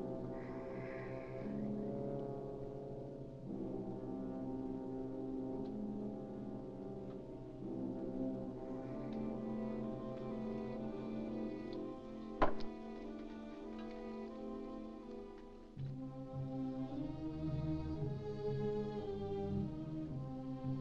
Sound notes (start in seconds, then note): 0.0 suspenseful music; 0.3 tense music; 12.4 cup sets down; 14.3 ominous music